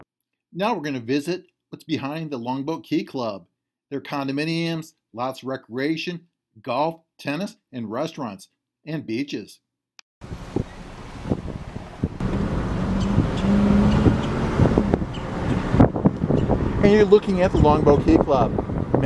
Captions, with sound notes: Now we're gonna visit what's behind the Longboat Key Club, their condominiums, lots of recreation, golf, tennis, and restaurants and beaches. (car engine humming) (wind gusting) And you're looking at the Longboat Key Club.